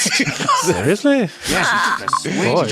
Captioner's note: laughter